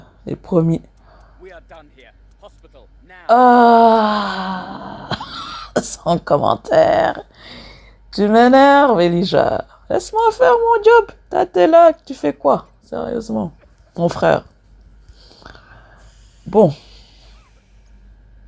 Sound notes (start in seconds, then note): 8.6 laughs